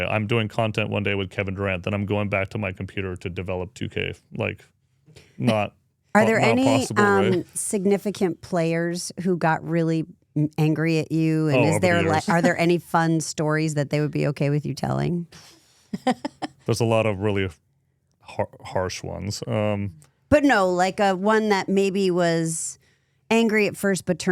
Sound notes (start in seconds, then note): 16.0 speaker laughs